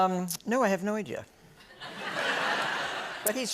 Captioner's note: laughter